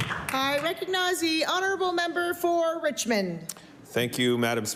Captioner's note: applause